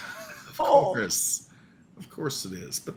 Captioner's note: laughs